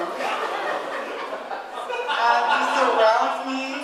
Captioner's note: audience laughing